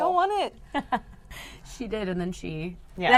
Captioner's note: laughs